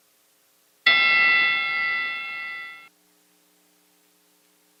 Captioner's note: bell rings